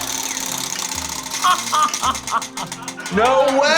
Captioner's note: laughter